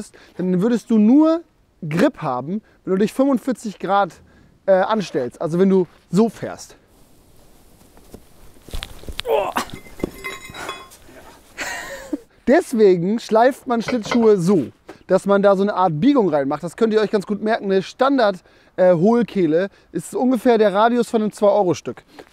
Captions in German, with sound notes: dann würdest du nur Grip haben, wenn du dich 45 Grad anstellst. Also, wenn du so fährst. *Gelächter* Deswegen schleift man Schlittschuhe so, dass man da eine Art Biegung reinmacht. Das könnt ihr euch ganz gut merken: Eine Standard-Hohlkehle ist ungefähr der Radius von einem 2-Euro-Stück.